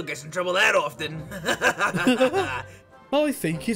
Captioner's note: both chuckle